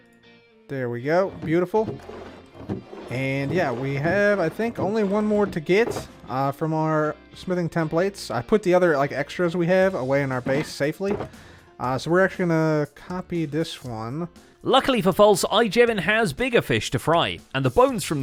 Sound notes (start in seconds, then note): 1.4 many barrels opening